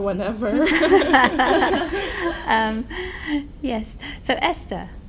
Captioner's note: laughing